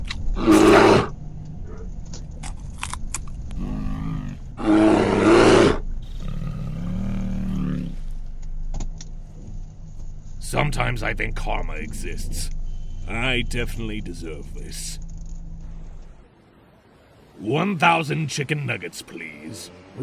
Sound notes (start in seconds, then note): 0.3 angrily Roars; 3.5 angrily Roars; 3.5 growls